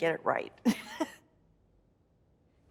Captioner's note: laughs